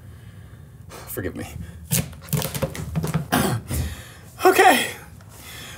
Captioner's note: knife clatters